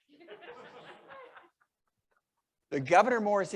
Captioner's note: members laughing